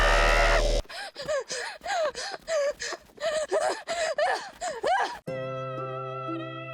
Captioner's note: Abby screams; Abby pants; rapid footsteps; peaceful music; singing in foreign language